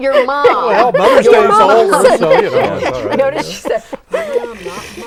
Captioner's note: laughing